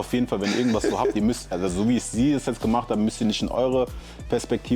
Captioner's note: gelächter